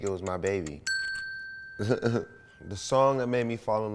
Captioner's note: bell dings